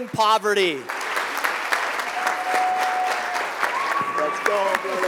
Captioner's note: applause